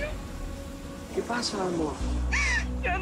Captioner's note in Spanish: Sollozos